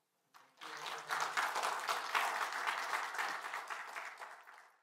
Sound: audience clapping

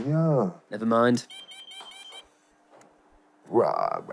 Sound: machine beeping

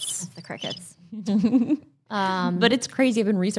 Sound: chuckles

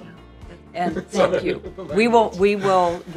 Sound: laughing

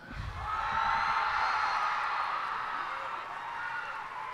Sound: cheers and applause

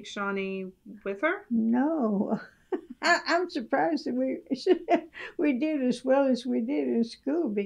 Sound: laughter

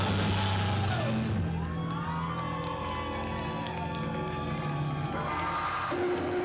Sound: cheers and applause

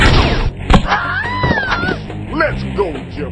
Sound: screams

